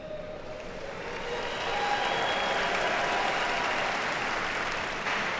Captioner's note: attendees cheer and clap